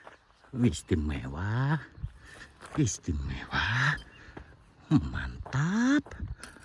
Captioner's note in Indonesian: terkesiap